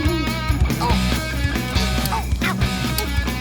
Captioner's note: groaning